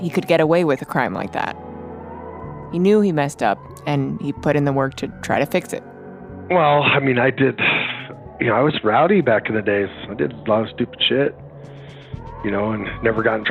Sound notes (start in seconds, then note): 7.6 sighs